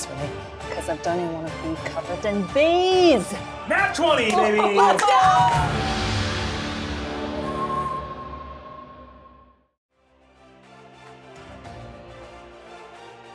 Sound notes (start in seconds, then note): 4.9 everybody laughs; 5.8 dramatic music; 9.9 epic music